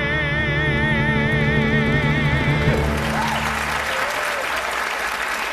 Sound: audience applauding

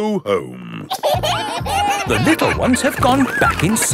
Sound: kids giggling

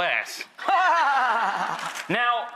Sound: laughs

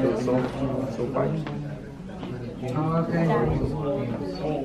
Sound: students talking

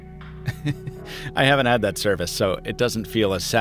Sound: chuckles

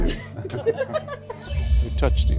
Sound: women laughing

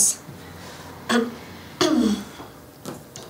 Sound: clearing throat

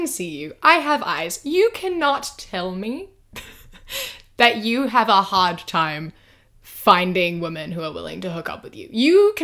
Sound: laughs

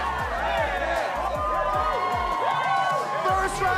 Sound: cheering continues

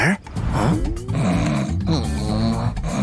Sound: roaring; snoring

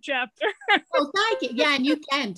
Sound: laughing

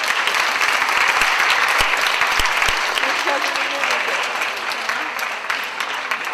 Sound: applause

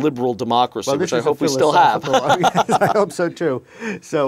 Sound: laughing

